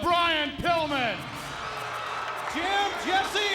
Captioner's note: audience cheers